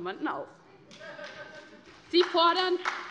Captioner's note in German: Beifall bei der SPD